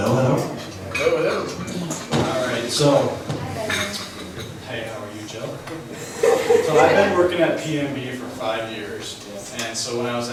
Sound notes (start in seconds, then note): 1.3 voiceover